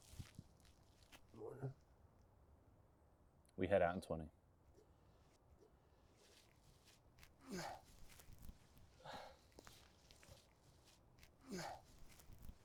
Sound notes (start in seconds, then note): 7.4 grunting